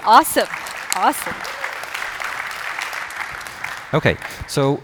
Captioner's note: applause